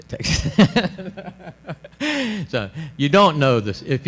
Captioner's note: laughs